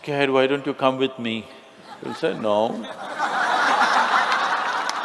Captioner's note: Smích